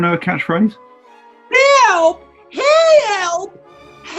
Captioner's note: southern u.s. accent